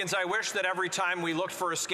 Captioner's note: some Applause